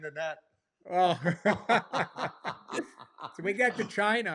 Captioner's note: laughter